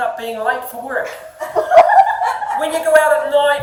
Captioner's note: audience laughing